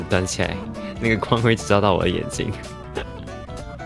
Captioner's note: laughs